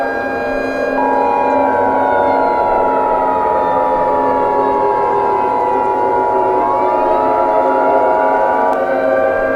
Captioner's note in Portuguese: Tom de Atenção